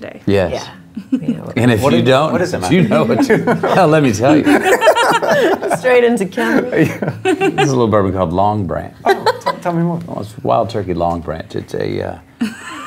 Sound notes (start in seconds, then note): 4.2 laughing; 7.0 laughs; 9.0 laughs